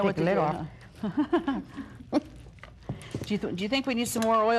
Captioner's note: chuckling